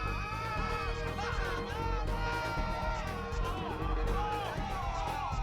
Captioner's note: screams